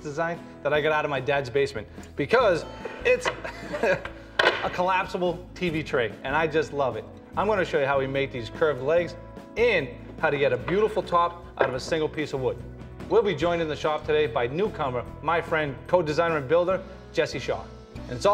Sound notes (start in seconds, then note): 2.7 laughs